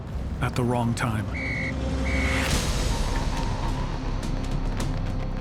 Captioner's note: police whistle tweeting